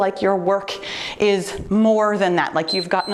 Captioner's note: timer beeps